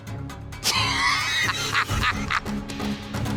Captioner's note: laughter